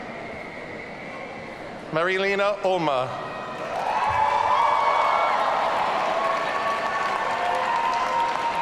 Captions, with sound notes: Marie-Lena Olma. (audience cheering)